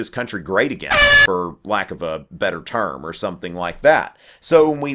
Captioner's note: airhorn